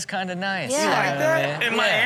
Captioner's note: audience laughs